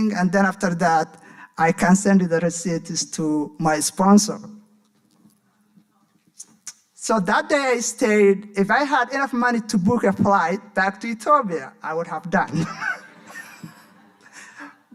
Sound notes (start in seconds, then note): 6.0 smacks lips; 12.5 audience laughing; 12.6 laughing